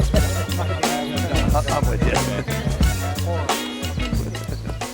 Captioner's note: chatter